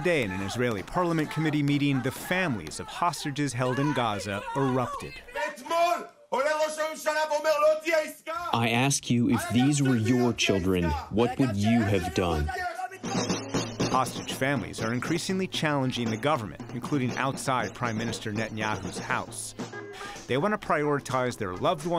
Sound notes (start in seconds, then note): 8.8 through translator